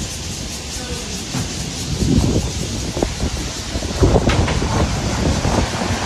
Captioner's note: sound of cicadas